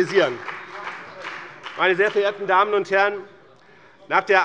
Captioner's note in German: Beifall bei dem BÜNDNIS 90/DIE GRÜNEN und der CDU